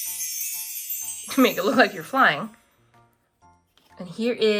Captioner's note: magical sound effect